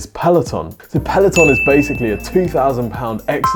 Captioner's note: bell chimes